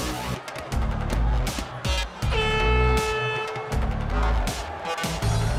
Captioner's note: horn blows